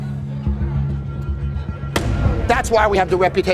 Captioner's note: slams on table